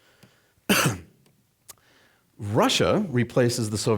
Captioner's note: coughing